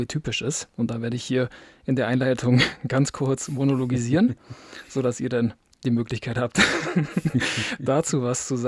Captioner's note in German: gelächter